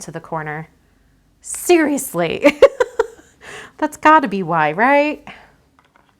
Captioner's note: laughs